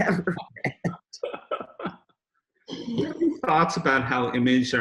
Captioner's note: both chuckle